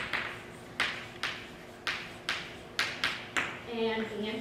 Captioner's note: chalk writing on chalkboard